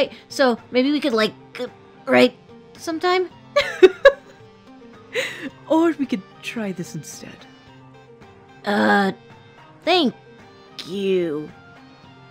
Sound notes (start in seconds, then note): 3.6 laughing